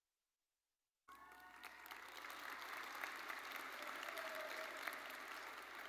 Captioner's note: audience cheering and applauding